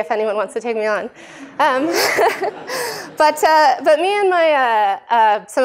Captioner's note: laughter